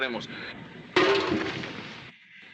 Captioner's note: clang